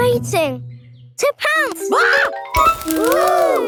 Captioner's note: screams